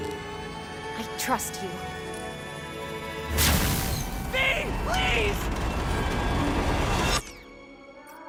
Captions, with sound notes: I trust you! *laser blast* V! PLEASE!!